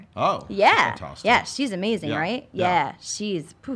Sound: none

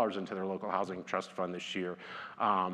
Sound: none

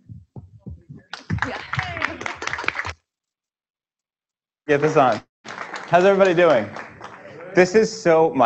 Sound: applause

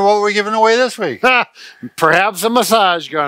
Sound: laughing

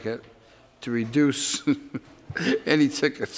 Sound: laughs

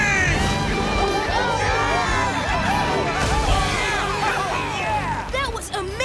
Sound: cheering

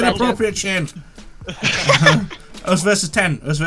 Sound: everyone laughing

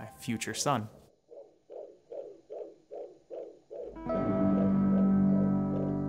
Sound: ultrasound heartbeat

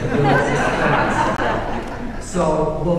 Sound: audience laughing

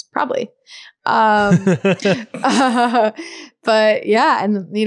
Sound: laughing

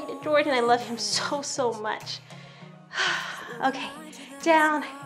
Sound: exhales heavily

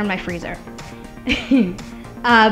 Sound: laughter

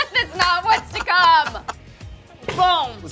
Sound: laughing

